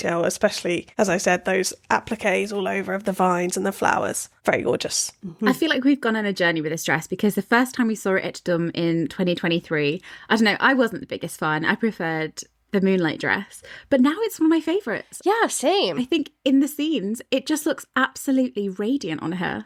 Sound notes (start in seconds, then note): none